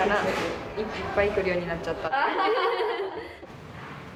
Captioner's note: laughs